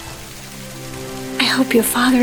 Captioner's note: water splashes